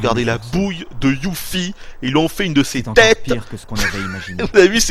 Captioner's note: laughs